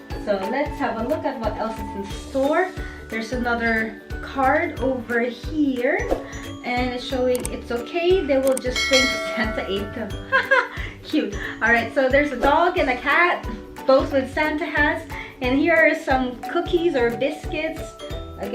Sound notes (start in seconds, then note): 10.3 lauhing